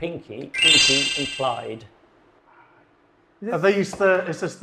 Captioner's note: video game chimes